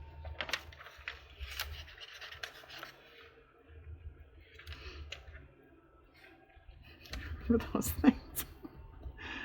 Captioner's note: laughs